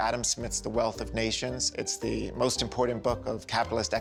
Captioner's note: none